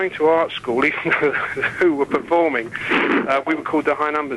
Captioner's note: laughing